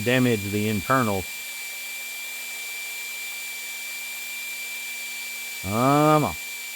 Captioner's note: drill Whirring